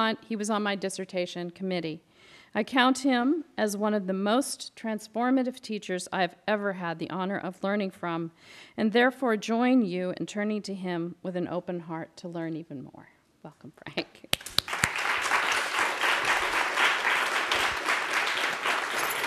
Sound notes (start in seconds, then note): 14.3 applause